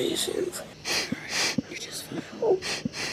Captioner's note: crying